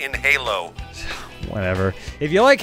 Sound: scoffs

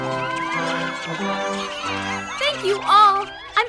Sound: cheering

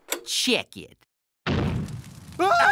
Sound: explodes; screams

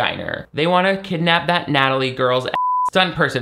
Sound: beep

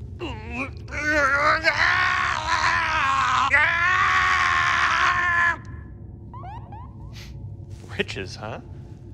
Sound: screams

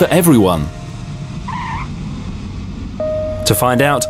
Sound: plane engine roaring; tyres squealing

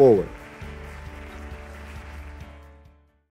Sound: audience applauds; bright music

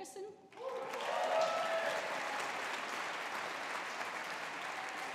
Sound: audience applauding

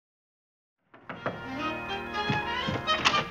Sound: knocking on door

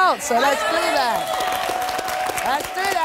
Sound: applause

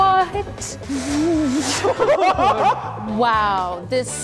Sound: laughter

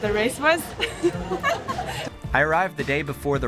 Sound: laughing

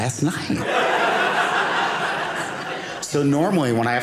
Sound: audience laughing

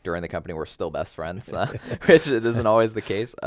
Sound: laughs

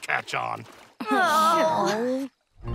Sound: groaning

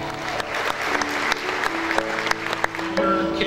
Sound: clapping

